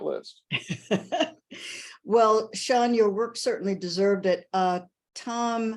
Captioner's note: laughs